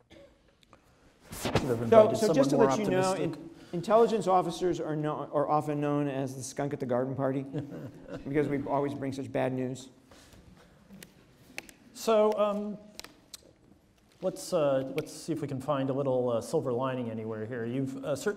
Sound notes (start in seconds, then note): 7.4 audience laughs